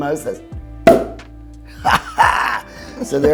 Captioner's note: cork pops; laughs